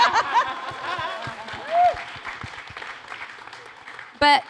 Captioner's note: laughter; applause